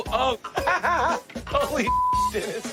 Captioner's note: laughs